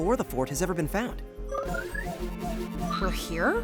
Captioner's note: alert